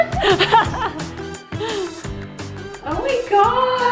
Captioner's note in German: lacht